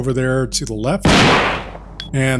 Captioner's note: gunshot